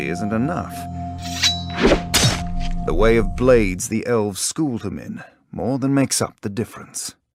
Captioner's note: knife scraping